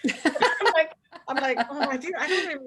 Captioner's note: laughing